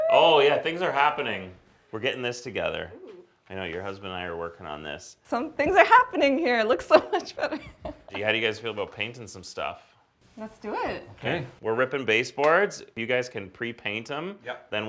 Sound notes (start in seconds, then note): 6.8 laughs